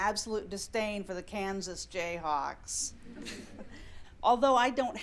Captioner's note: scattered laughter